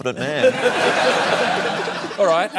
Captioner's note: laughter